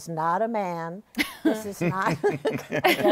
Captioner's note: laughter